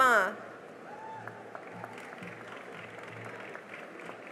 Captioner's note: cheering and applause